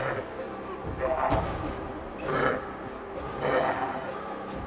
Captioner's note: Sadie whimpering; leprechaun grunting